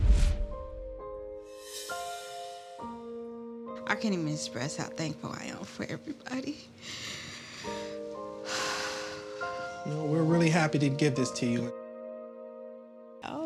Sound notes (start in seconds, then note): 0.4 gentle music; 6.6 sighs